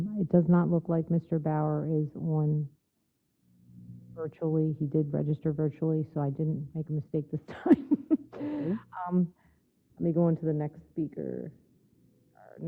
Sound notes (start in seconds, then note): 7.5 laugh